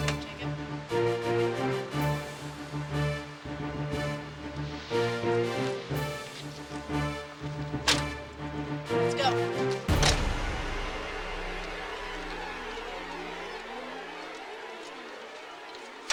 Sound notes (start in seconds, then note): 7.8 trunk door clicks; 11.0 suspenseful music